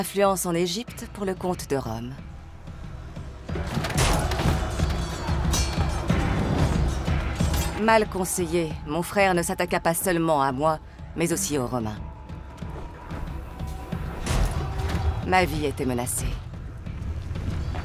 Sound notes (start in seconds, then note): 3.6 armor clatters; 5.7 dramatic music; 5.7 swords clanging